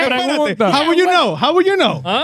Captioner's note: speaking In Foreign Language